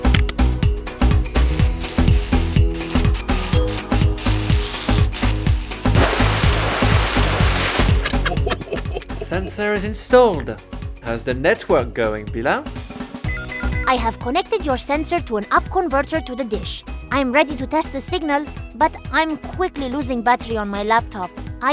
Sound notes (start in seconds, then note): 1.2 welding; 6.0 water spurting; 8.0 laughing